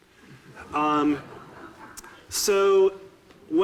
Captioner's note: audiences laughing